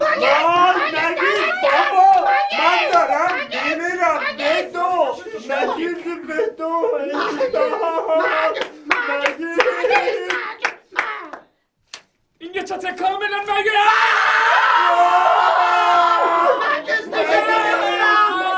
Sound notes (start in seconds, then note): 1.6 fake celebrating sound